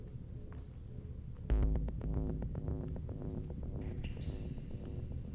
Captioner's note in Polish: Krótkie, miarowe, elektroniczne łopotanie